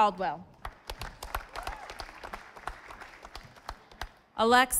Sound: audience applauding

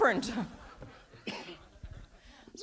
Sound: audience laughs

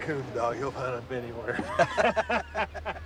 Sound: all laughing

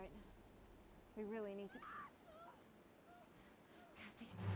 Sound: screaming

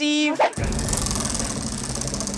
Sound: spinning

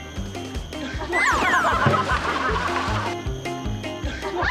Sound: all in stitches

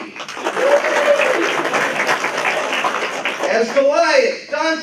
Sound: applause

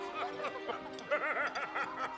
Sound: laughs loudly

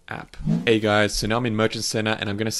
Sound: air whooshing

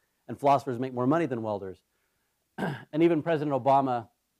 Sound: cough

